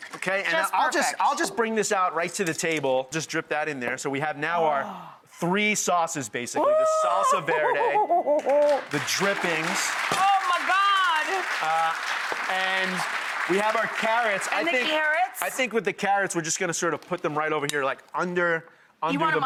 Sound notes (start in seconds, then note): 6.8 yells in excitement; 9.2 audience claps